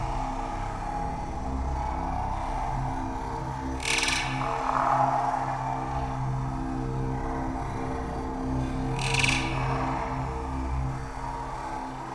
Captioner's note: alien sounds